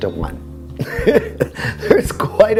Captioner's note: laughing